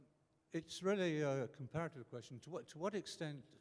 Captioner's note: voiceover